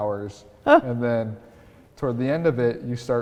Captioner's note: laughing